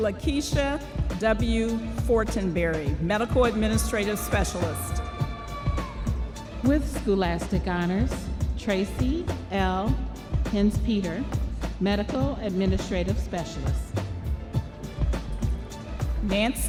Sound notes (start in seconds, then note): 5.9 audience cheering